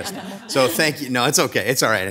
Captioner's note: all chuckling